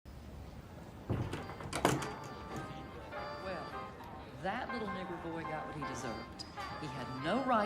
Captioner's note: door closes